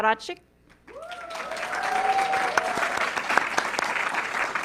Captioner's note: audience clapping